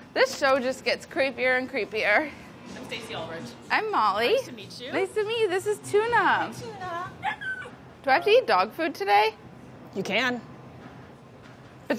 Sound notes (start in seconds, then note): 7.0 dog whining